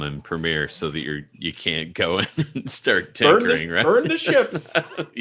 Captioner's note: laughing